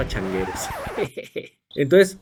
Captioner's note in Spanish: risas